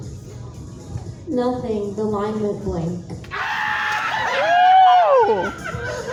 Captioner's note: audience cackles